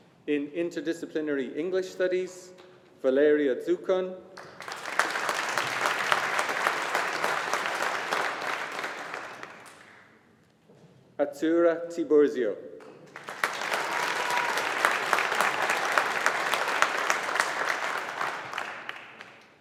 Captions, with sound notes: In Interdisciplinary English Studies, Valeria Dzekun. (AUDIENCE APPLAUDING) Azzurra Tiburzio. (AUDIENCE APPLAUDING)